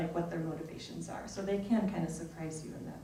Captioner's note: none